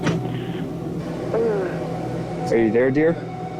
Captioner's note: woman sighs